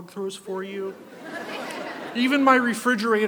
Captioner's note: audience laughs